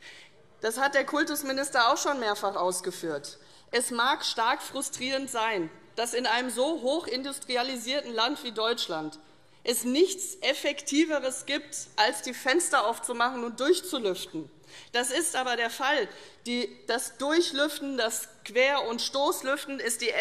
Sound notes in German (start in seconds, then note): none